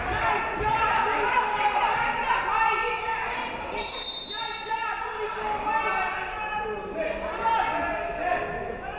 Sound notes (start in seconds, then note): 3.7 referee whistles